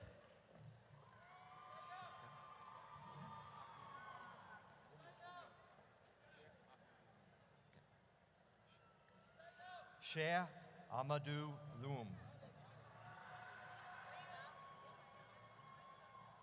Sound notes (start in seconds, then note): 1.1 audience cheers; 13.0 audience cheers